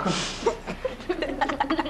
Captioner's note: laughter